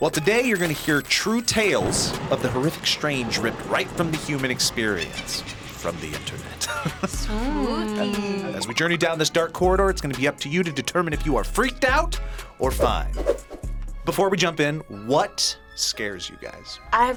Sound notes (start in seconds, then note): 1.5 thunder crashes; 6.5 laughs; 6.6 evil laughter